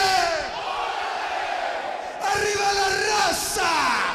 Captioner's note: crowd chatter